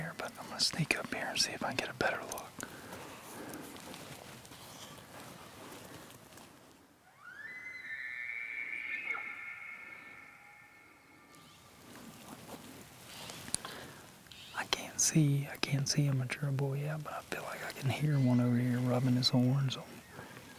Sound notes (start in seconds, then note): 7.0 elk bugles